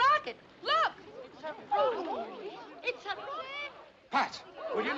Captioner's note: Murmúrios entusiasmados